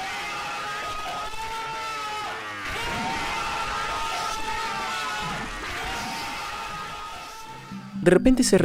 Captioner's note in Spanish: grito